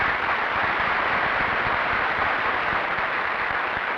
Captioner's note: applause